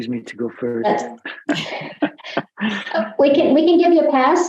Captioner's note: laughs